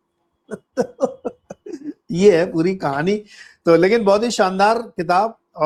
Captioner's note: laughs